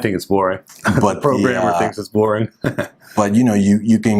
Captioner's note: chuckles